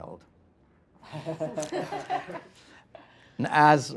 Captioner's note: laughing